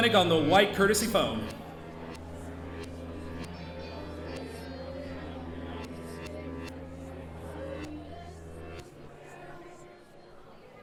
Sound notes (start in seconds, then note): 3.5 audience chattering; 3.5 warped music